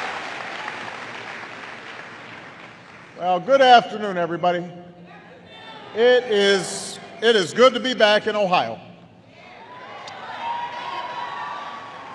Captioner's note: applause; applause